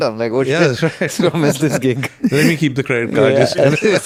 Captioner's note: laughs